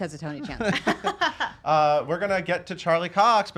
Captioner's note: laughing